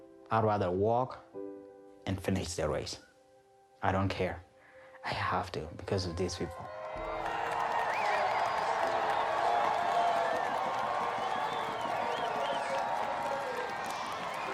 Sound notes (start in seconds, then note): 9.1 cheering